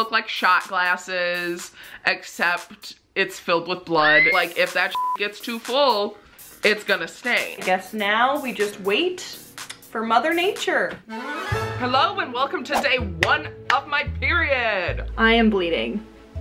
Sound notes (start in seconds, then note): 4.9 beeps; 13.7 claps